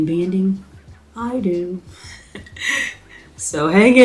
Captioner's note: laughs